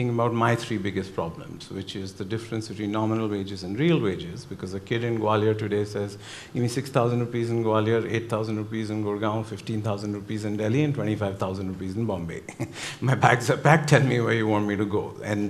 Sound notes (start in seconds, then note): 12.4 chuckles